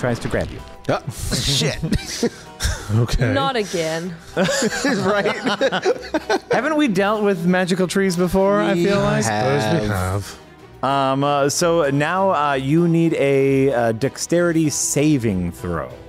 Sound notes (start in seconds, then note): 4.3 laughs